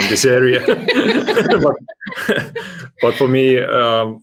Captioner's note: laughter